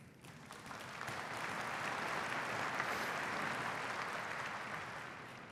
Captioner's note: applause